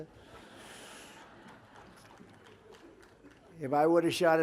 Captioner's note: laughter